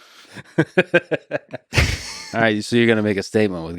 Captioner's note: Lex laughs